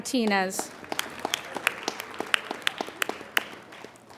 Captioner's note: applauding